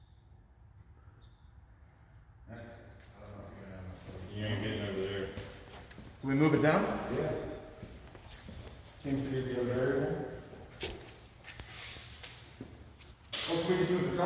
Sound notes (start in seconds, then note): 9.2 indistinct conversation